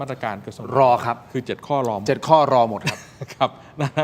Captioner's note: laughs